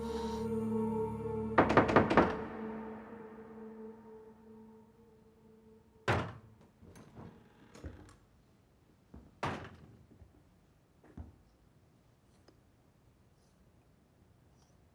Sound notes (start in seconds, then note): 0.7 on frappe doucement à la porte